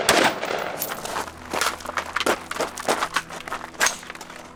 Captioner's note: slow magazine change noises